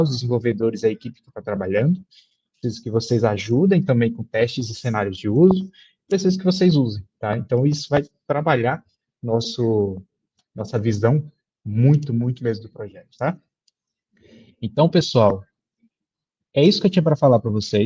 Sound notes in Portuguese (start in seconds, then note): none